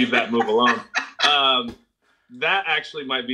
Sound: laughs

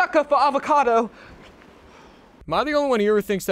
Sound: Dark Lord sigh

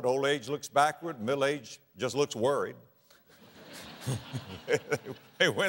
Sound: audience laughter

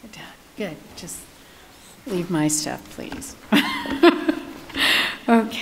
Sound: laughing

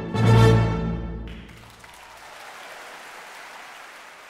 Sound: applauding

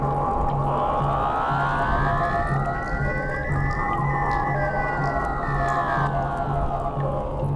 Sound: louder ominous noise

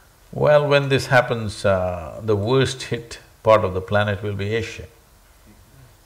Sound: none

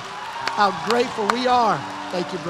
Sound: applause and cheers continue

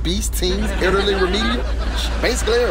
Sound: laughs

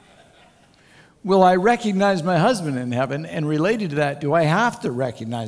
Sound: laughter; laughter

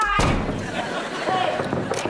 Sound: knocking

